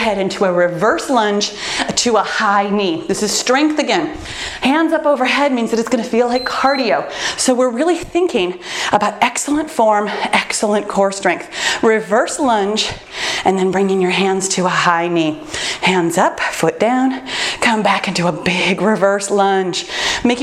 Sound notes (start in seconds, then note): 6.2 timer beeps